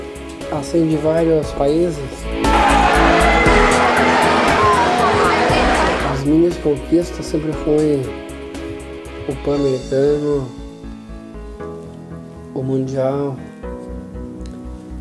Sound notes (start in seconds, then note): 2.3 people cheering